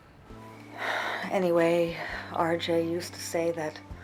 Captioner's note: sighs